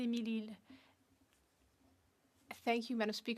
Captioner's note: speaking French